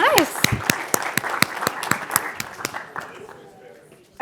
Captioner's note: applause